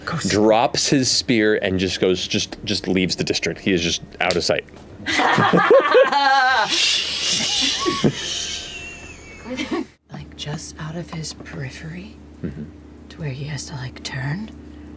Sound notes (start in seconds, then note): 4.6 shushes her; 5.1 laughs loudly